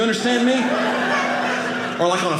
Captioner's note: audience laughing